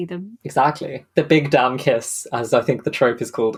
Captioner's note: none